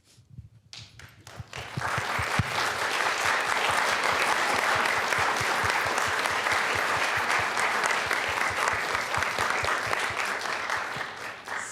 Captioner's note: applause